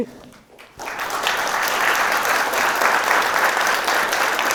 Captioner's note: class applauding